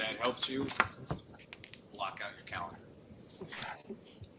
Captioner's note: laughter